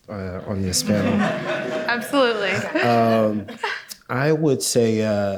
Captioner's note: audience laughing